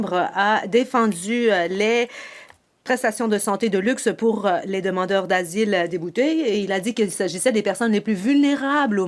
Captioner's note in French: voix de l'interprète